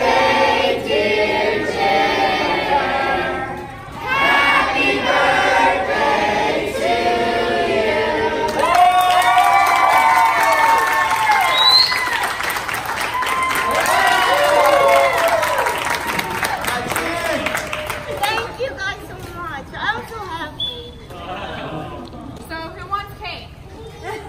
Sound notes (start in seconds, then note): 8.2 clapping